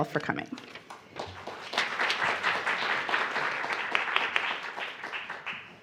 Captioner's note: audience clapping